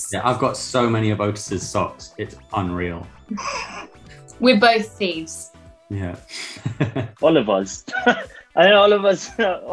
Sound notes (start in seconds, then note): 3.3 laughs; 6.4 laughs